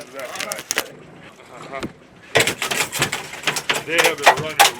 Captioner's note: fish thrashing